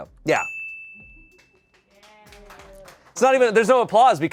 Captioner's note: bell dings; people clap